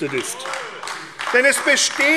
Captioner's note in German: Beifall AfD